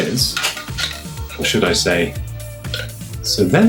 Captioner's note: burps